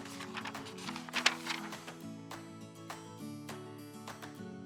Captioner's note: pages turning